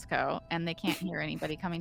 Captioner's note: Cornette laughs